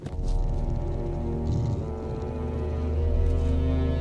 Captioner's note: bear breathing heavily; moves to deep foreboding music